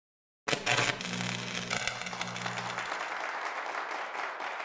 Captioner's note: static noises into applause